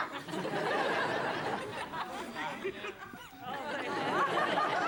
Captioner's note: audience laughs